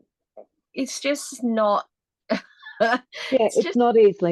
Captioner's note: laughs